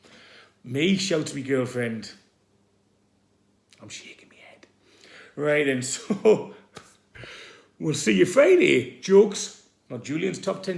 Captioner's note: whispers